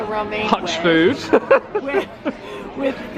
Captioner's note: laughing